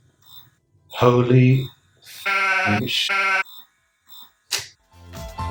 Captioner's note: vacuum cursing noise